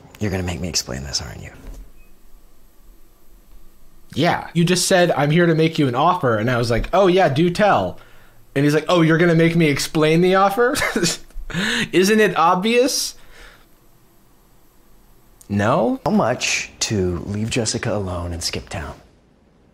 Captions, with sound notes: - You're going to make me explain this, aren't you? - Yeah. You just said, I'm here to make you an offer. And I was like, oh yeah, do tell. And he's like, oh you're going to make me explain the offer? (scoffs) Isn't it obvious? No? - How much to leave Jessica alone and skip town?